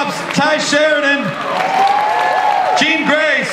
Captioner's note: audience cheers